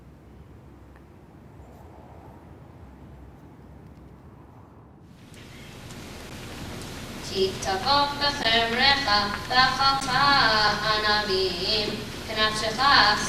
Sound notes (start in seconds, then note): 6.7 young boy chanting in Hebrew